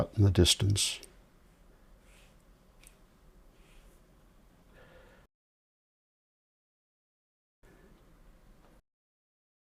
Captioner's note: silence